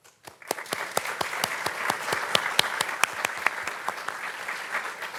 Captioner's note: participants clapping